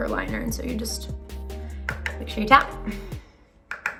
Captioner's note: brush taps